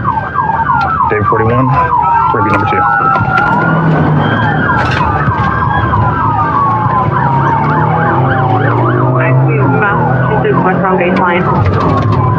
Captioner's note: radio ctter